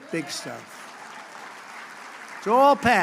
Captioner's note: applause